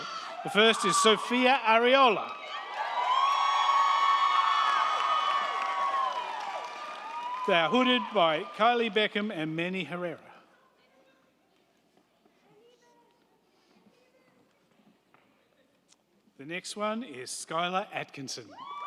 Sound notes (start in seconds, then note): 2.5 crowd cheering; 2.5 crowd clapping